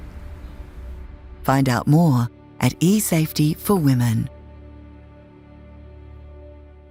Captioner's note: voiceover